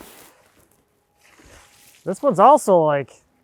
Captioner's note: water sloshing